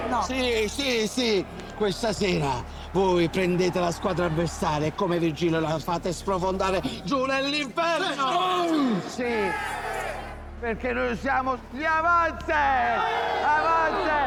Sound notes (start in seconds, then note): 8.0 all exulting; 12.8 all exulting